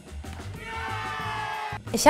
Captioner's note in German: Jubelrufe